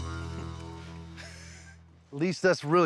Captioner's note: laughs